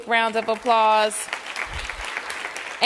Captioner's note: applause